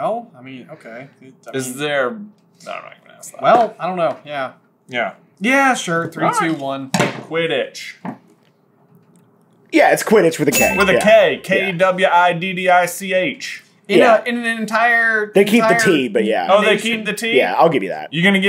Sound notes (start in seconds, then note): none